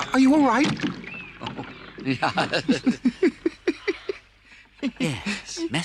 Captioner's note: laughs